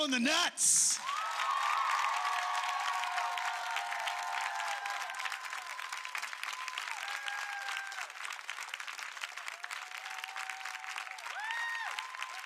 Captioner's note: crowd cheers